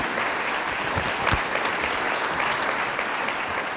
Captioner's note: applause